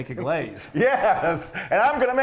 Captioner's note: laughing